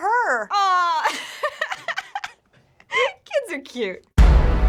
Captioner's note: laughing; dramatic chord